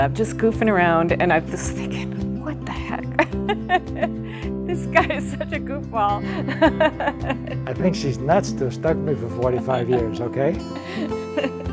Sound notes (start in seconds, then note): 2.8 laughs; 10.7 laughs